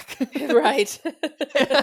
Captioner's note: both laugh